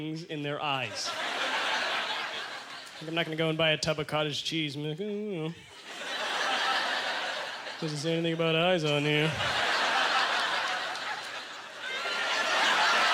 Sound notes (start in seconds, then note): 5.7 audience laughter